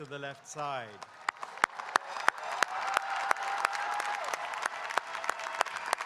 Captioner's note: audience cheering and applauding